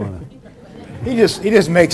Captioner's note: audience laughs